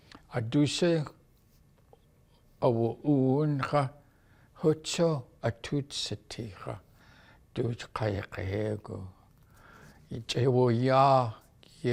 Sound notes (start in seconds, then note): none